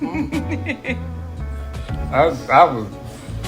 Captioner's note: laughter